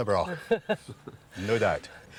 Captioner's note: laughing